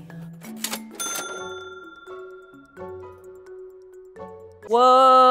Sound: cash register dings

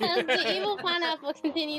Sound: laughing

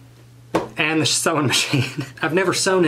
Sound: laughs

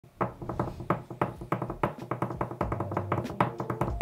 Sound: knocking on table

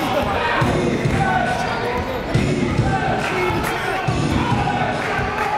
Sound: crowd chanting "Defense"

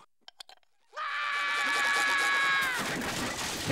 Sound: screaming

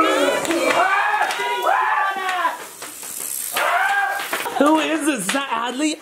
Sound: shrieking

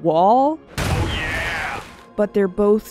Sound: Kool Aid Man Voice

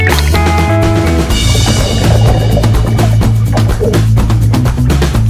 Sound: bubbles rush

